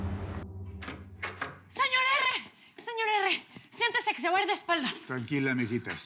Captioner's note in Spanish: sonido al abrir la puerta